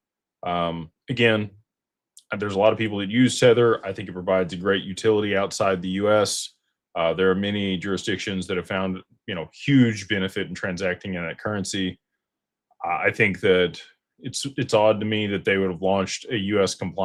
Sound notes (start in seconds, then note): none